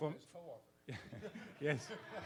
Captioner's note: participants laugh